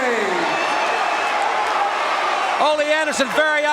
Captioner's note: audience cheering